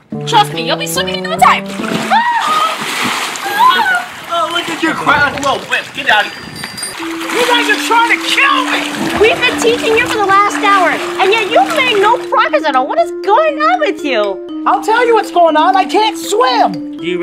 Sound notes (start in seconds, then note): 3.4 mock Scream; 3.4 scream